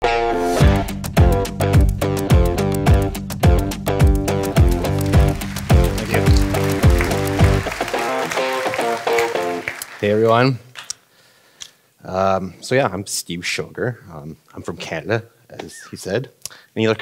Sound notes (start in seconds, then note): 0.5 driving rock music; 6.7 audience clapping